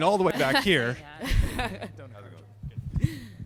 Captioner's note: laughter